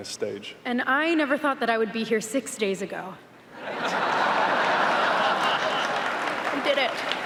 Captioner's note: audience laughs